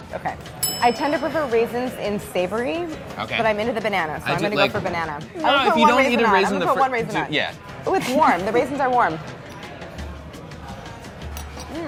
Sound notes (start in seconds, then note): 8.8 laughing